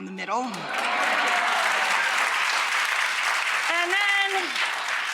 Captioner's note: audience cheering and clapping